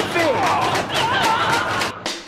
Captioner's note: man screaming